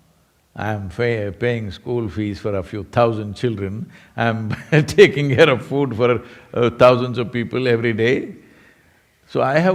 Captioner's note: laughs